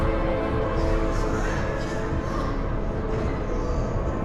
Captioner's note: chattering, distorted